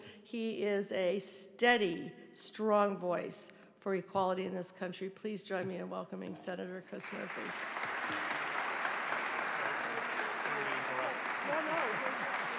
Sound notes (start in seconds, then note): 7.0 audience applauding